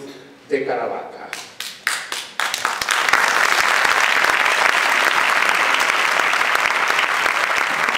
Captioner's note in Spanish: aplausos, aplausos